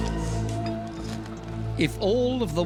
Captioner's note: scraping